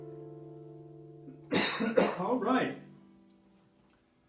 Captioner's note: coughs